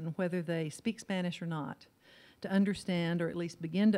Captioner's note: none